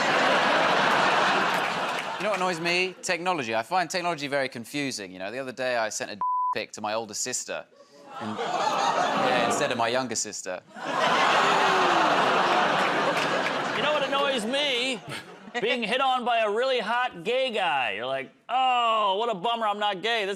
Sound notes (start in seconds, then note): 10.9 audience groans